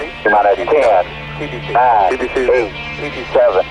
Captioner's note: beeping